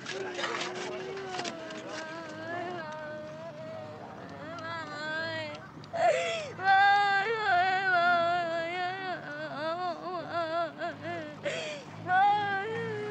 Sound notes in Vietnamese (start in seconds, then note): 1.7 Tiếng rền rĩ; 5.9 Khóc than